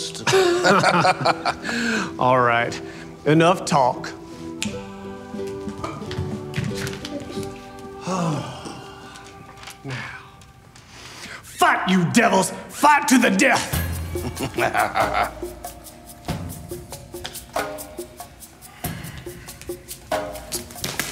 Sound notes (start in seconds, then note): 0.2 men laughing; 4.5 Robert's fingers snapping; 14.1 Mr. Dixon laughs; 15.7 rhythmic drumming playing